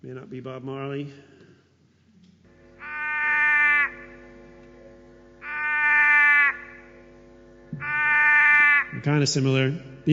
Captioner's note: sounds of Wailing Frog call